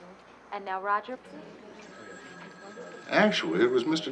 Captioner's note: phone ringing